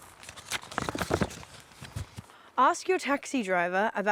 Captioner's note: none